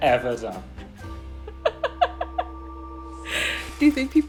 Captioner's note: all laughing